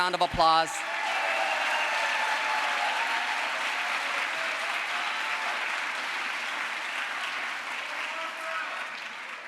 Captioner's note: crowd applause